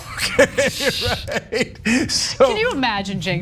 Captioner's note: laugh